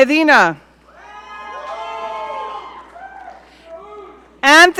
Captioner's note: audience cheering